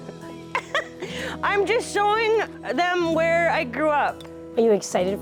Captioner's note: chuckles